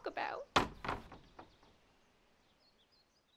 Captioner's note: slamming screen door